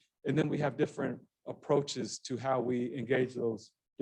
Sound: none

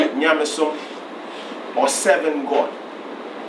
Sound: speaking in foreign language

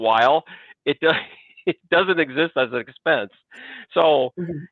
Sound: chuckles

